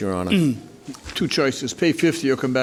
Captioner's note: clears throat